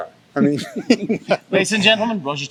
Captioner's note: laughs